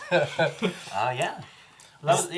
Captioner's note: all laugh